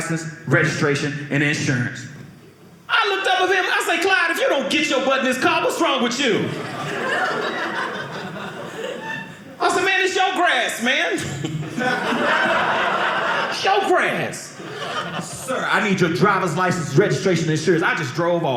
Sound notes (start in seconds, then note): 6.4 audience laughing